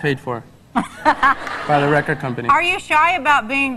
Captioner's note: laughs